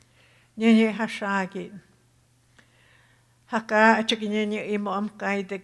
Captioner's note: speaking Tohono O'odham